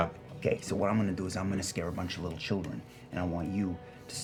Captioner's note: none